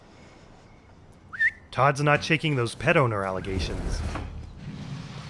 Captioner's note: whistle